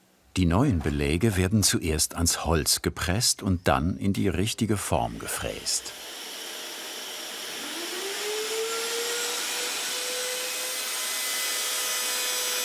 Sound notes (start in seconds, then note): 5.2 vacuum cleaner noises, milling noises